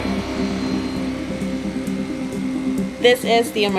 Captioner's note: saw buzzing